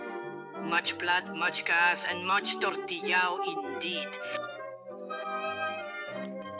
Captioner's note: elena complains in spanish of having a lot of work